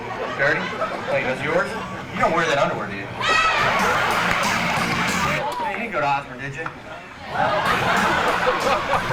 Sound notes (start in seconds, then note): 3.5 laughter